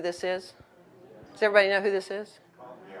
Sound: audience murmuring

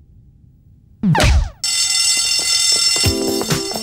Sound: ringing

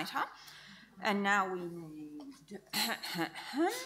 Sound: clears throat

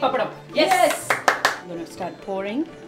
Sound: clapping

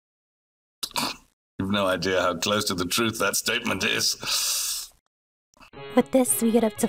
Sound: scoffs

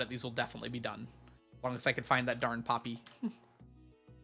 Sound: chuckles

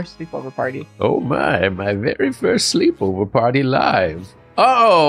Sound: old man voice

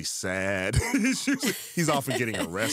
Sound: chuckles

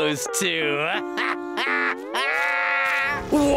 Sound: laughing

